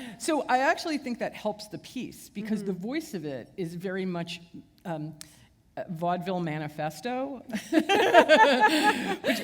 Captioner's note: laughter